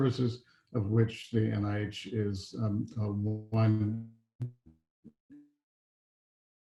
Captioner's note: faintly speaking